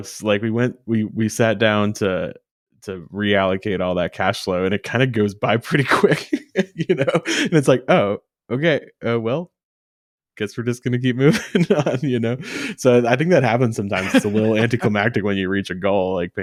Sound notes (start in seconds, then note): 6.2 laughs